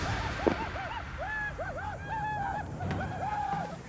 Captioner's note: war cries